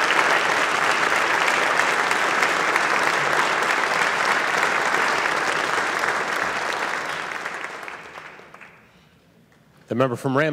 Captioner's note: applause